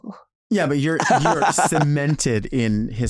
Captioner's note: Nymphia laughing